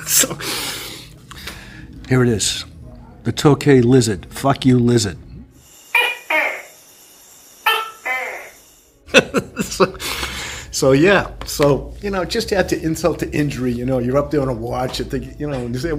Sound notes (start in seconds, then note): 0.0 laughter; 7.6 chirping; 9.0 laughter